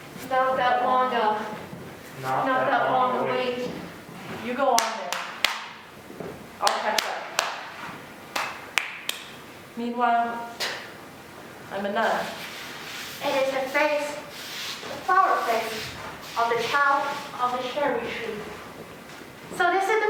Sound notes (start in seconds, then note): 4.7 clapping